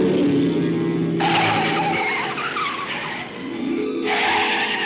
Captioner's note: tires screeching